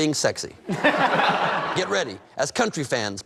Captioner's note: laughter